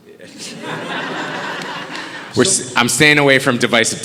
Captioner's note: audience laughing